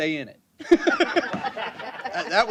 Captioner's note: laughter